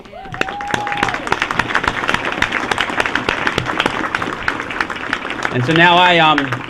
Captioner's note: applause